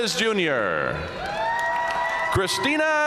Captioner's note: audience cheering and applauding